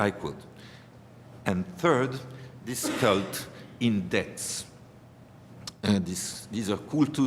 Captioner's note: german